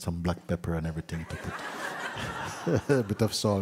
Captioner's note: laughter